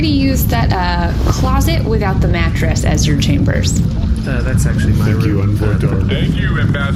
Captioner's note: quietly